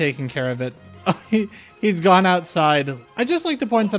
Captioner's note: chuckle